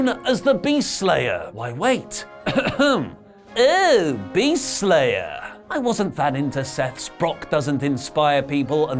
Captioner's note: cough